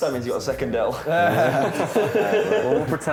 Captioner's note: laughter